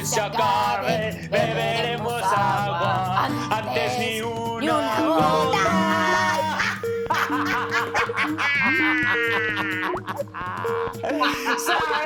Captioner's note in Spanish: Risas